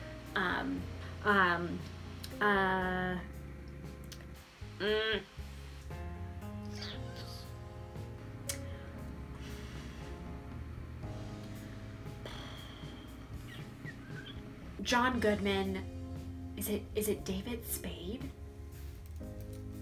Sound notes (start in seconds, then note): 6.7 lip noises